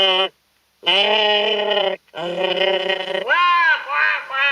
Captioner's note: crows